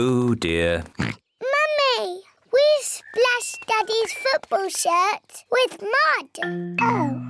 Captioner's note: oinks